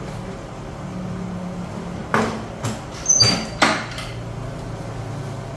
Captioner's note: press machine noise